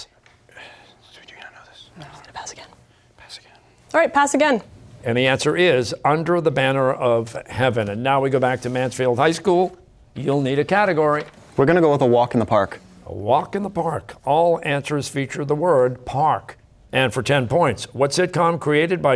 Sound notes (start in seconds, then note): 2.3 whispering